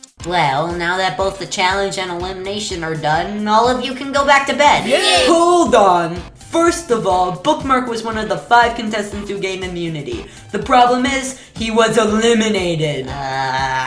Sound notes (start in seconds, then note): 4.8 all Cheer